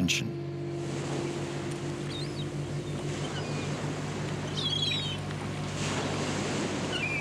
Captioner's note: water splashing; birds chirping